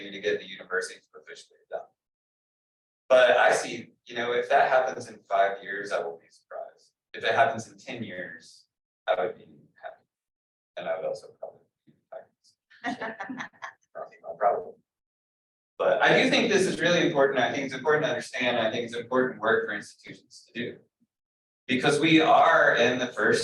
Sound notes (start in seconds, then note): 12.9 audience laughing